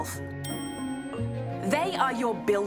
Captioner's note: ding!